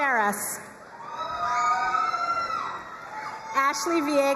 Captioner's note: crowd cheering and applauding